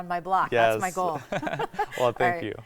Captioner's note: laughing